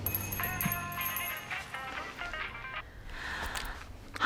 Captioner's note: doorbell jingles, drucinda sighs; cell phone rings; sighs